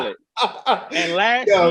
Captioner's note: laughs